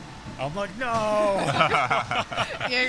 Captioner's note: laughter